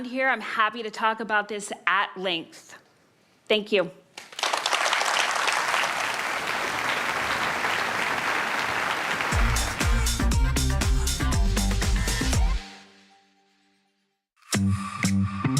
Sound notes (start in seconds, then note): 6.9 applause